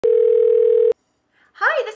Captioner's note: phone ringing